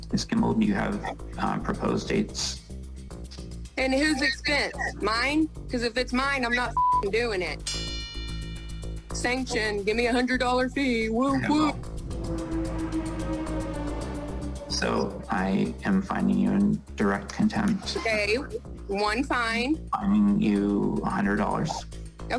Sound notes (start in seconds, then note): 7.6 bell dings; 12.0 tense music playing